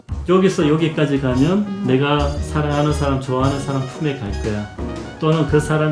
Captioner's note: bong